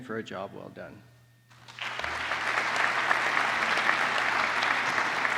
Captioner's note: applause